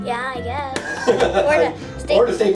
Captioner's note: laughs